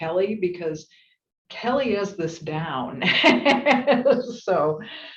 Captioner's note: laugh